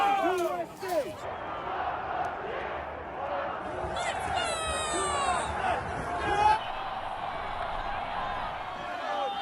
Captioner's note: chanting